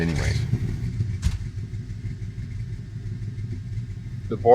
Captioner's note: truck engine roaring